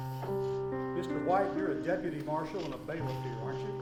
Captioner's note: speaking faintly